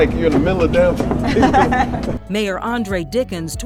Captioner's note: person laughs